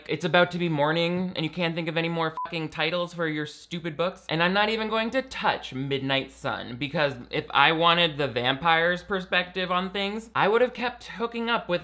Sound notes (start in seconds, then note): 2.3 beep